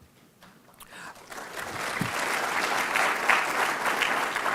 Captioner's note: audience applauding